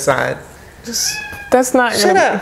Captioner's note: cat meowing